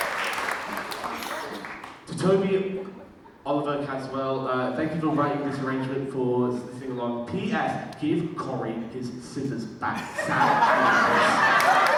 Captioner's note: audience cheers and claps